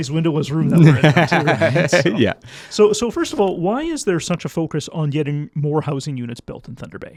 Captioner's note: laughs